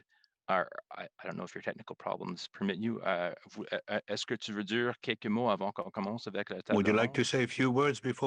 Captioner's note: speaking french